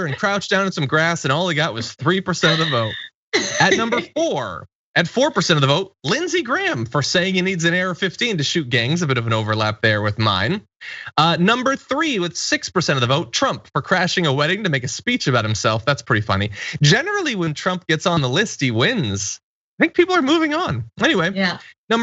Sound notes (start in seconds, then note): 1.5 laugh